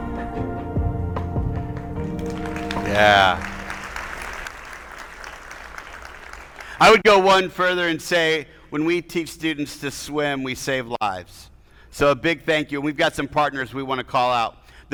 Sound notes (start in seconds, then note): 2.1 attendees applauding